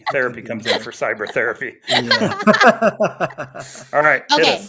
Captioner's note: everybody laughing